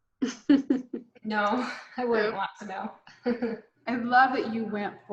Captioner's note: laughs